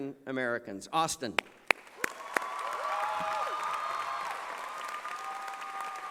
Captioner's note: cheering and applause